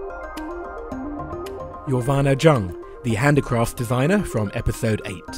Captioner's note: voiceover